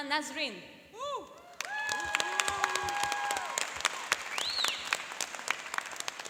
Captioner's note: cheering and applauding